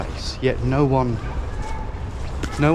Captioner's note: children chattering